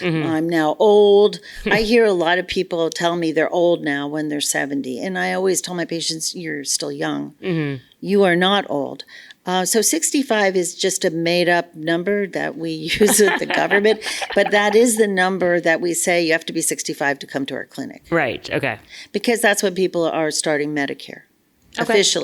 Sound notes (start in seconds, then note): 12.9 laughs